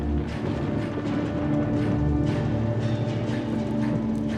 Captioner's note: thunder cracking